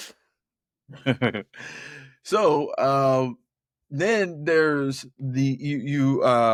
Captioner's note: laughs